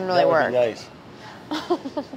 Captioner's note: laughing